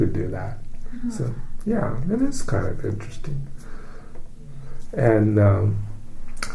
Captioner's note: takes breath